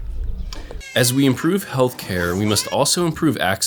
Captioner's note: voiceover